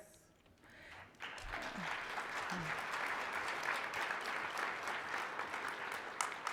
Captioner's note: applause